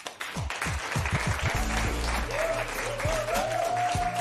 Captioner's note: cheers and applause